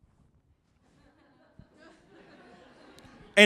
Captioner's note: laughter